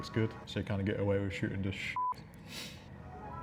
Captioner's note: beep